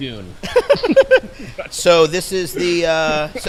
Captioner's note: laugh